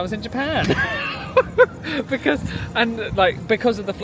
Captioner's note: both laugh